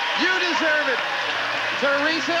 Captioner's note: audience applauding